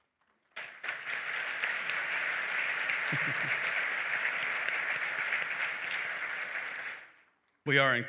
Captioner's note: applause